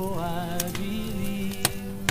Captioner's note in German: Das Feuer knistert